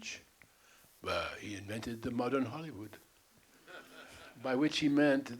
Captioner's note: French accent; Bogdanavich, French accent; laughter